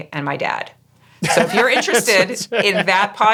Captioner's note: laughing